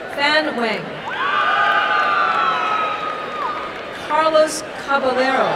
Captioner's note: applause and cheering